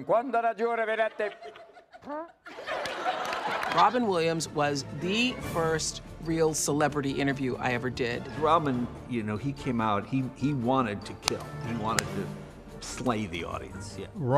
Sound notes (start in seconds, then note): 0.1 speaking latin; 2.1 tooting noise